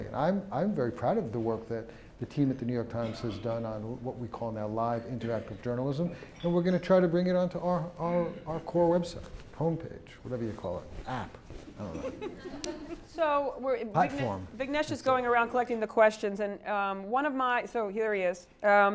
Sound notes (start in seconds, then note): 11.8 laugh